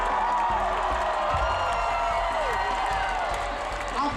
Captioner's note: crowd cheering